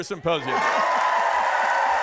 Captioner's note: applause